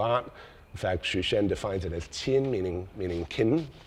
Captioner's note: speaks in foreign language